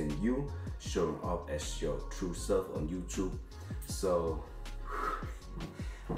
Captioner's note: sighs